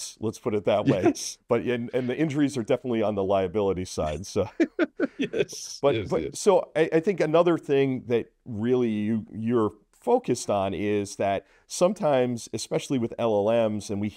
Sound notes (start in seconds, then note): 4.4 laughs